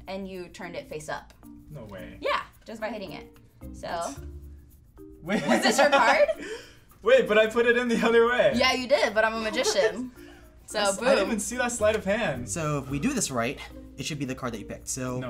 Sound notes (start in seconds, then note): 5.4 laughs